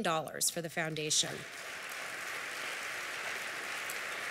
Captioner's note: applause